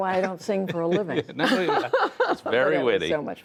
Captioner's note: laughter